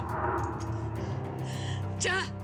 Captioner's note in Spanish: sollozos